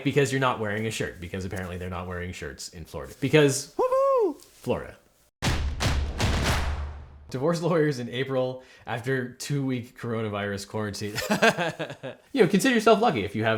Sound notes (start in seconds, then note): 3.8 fan cheers; 5.4 drums beat; 11.1 host laughs